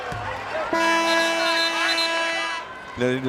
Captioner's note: horn blares